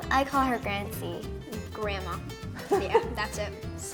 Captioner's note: interviewer chuckles